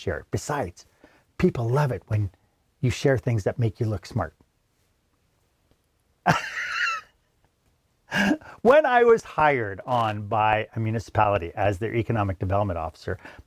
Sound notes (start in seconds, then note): 6.2 laughs